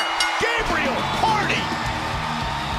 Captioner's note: bell ringing